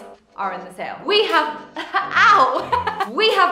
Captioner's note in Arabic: يضحك